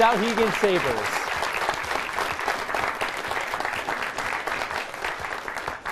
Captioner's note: applause